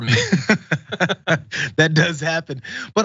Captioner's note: laugh